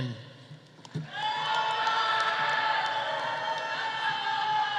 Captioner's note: audience cheering; audience applauding